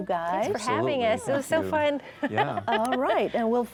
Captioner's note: laughs